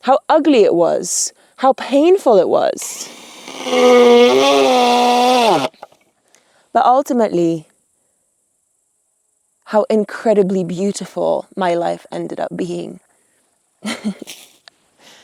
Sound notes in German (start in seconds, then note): 2.9 Elektrowerkzeug surrt; 13.9 lacht